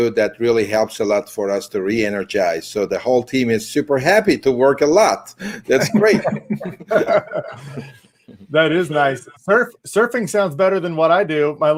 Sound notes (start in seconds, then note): 5.6 laughing